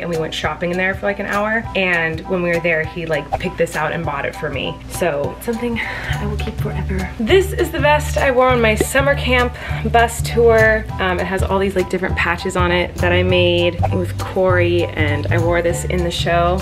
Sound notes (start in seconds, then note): 3.3 whooshing; 8.2 popping; 13.8 whooshing